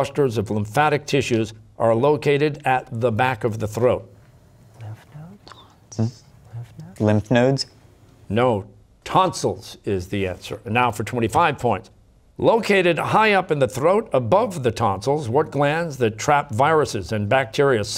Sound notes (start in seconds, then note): 4.1 whispering